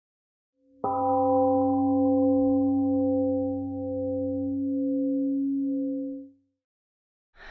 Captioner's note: temple gong rings and fades